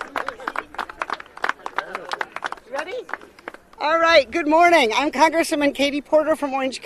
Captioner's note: applause